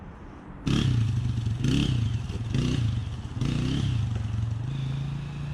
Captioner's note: bike engine revving